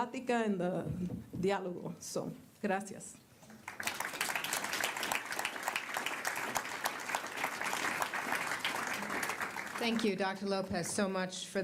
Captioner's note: applause